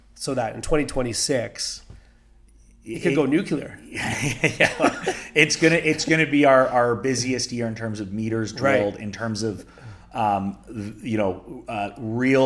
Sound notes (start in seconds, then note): 3.9 both chuckle